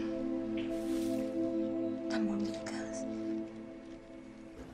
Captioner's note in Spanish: none